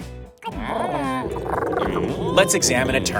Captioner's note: Doomlings chattering